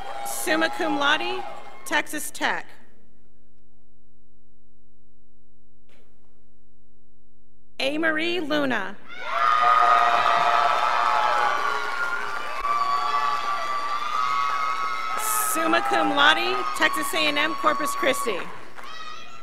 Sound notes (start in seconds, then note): 9.4 scholars applauding; 18.8 girl screaming